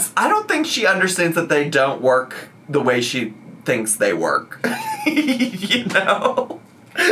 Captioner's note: laughs